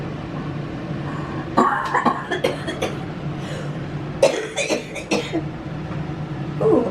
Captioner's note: coughing